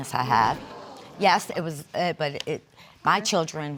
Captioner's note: stuttering